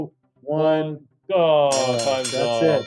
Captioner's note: bell ringing